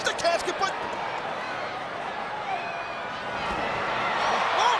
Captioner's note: crowd jeering; crowd cheering